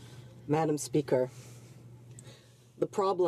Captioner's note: speaking French